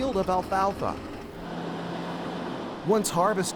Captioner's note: engine rumbling